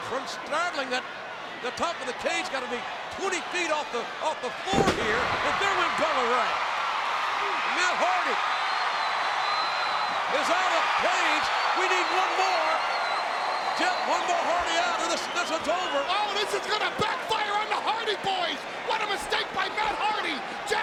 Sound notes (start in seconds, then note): 10.8 crowd cheering